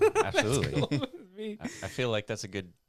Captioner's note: laughing